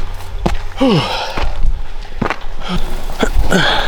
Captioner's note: panting